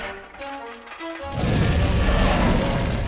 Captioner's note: roars